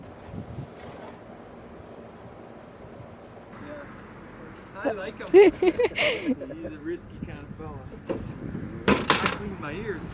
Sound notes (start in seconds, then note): 5.2 group giggling